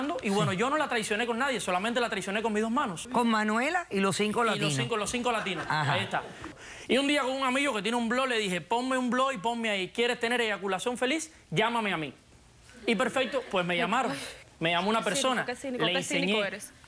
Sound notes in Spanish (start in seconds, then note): 5.2 Risas